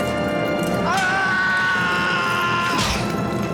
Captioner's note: screaming